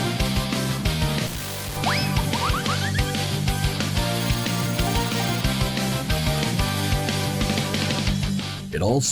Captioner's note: VineBoom.mp3